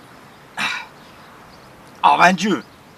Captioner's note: effort noise